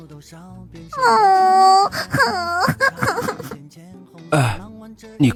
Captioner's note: sighs